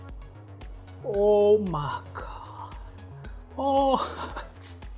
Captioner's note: whispers